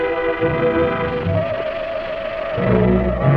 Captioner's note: ominous rattling; suspenseful music